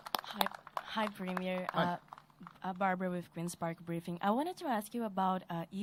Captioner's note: applause